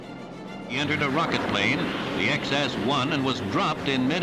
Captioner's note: radio voice